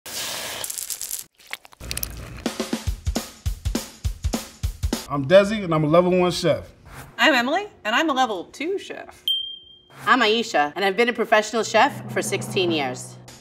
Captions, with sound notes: [sauce sizzling] [upbeat music] - I'm Desi and I'm a level one chef. - I'm Emily and I'm a level two chef. - I'm Ayesha and I've been a professional chef for 16 years.